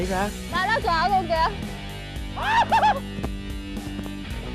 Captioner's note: exciting shouts